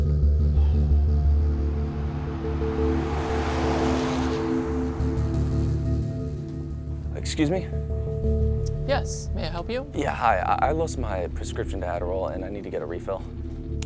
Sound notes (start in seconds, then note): 0.4 Drew sighs; 2.8 traffic humming